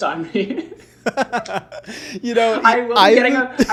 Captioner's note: laughing